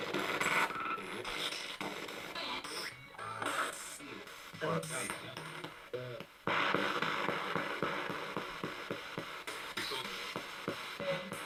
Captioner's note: sound of the Spirit Box in the background